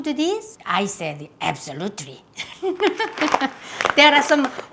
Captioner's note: laughs